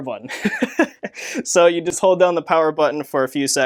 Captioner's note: laughs